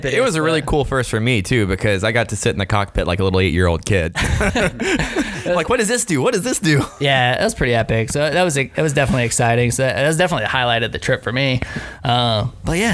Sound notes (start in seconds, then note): 4.1 both laughing